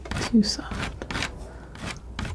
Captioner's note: scratching